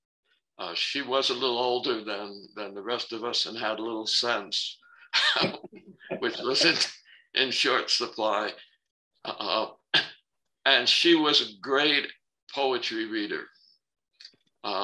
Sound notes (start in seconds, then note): 5.1 laughter